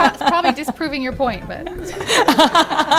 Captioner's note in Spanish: risas